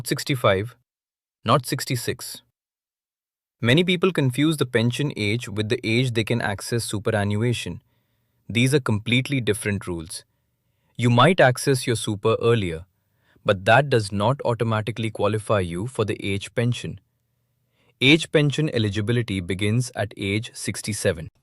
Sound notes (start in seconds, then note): 3.0 pause